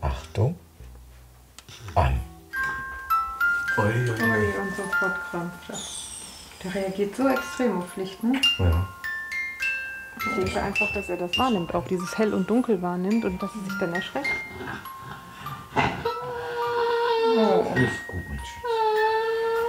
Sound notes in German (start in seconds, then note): 15.7 wimmert